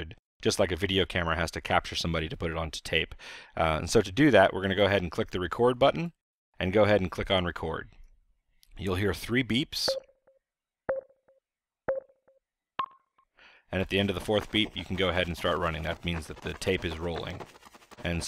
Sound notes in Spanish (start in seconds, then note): 9.5 Tonos